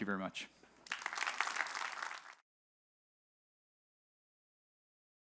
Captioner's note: audience applauds